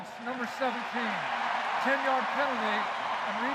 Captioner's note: cheering